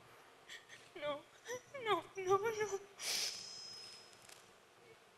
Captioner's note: crying